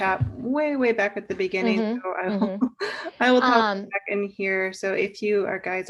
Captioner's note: laughs